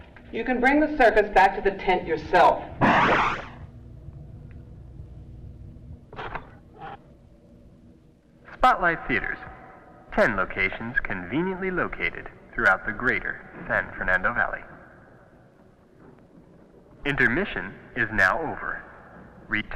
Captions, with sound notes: - You can bring the circus back to the tent yourself. (door whooshes) - [Man On PA] Spotlite Theatres. 10 locations conveniently located throughout the greater San Fernando Valley. Intermission is now over.